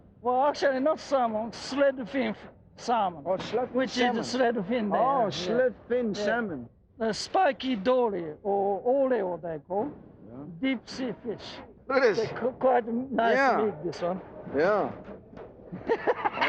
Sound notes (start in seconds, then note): 8.6 in foreign language; 15.7 laughing